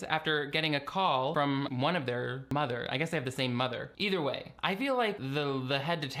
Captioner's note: none